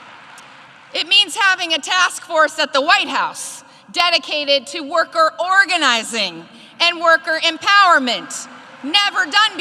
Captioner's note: applause